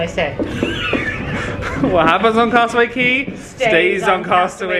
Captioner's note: chuckles